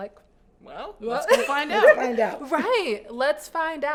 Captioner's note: laughs